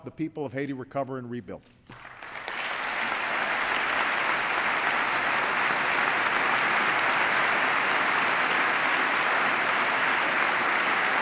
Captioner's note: applause